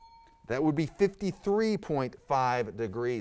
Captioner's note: ding